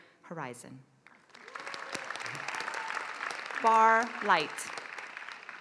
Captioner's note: applause